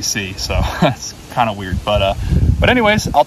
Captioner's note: chuckles